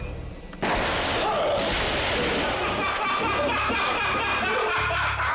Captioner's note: firecrackers explode; people laughing